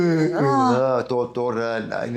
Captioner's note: sighs; sings in foreign language